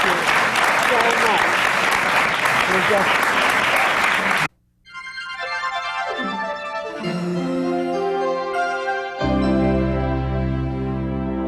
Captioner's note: applause